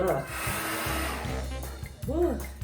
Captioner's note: blowing noises